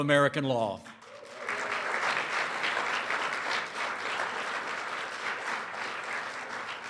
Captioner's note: applause